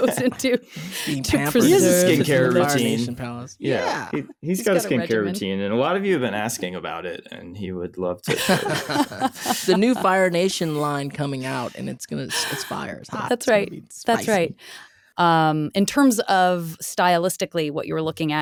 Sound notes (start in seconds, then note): 8.2 laughing